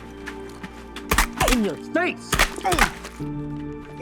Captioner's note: paintball gunfire